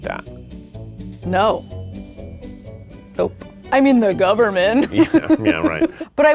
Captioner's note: laughs